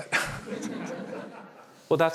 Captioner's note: laughter